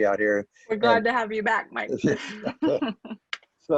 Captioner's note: chuckles